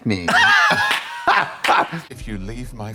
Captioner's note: blonde Women cluck and clap